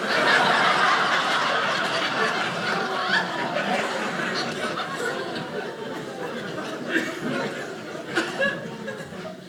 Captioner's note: audience laughing